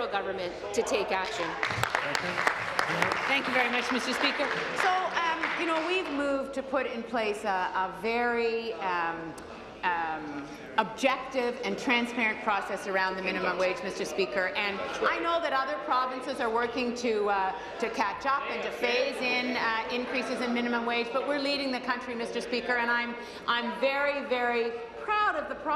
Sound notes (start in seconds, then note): 6.4 applause